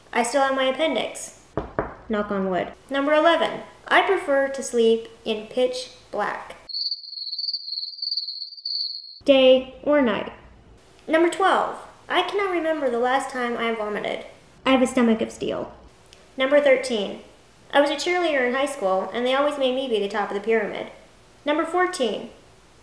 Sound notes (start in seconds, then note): 6.6 crickets chirping sound